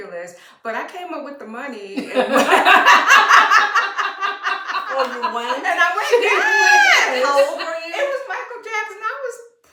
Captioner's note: laughter